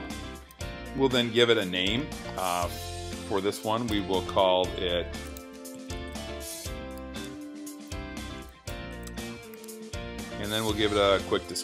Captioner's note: typing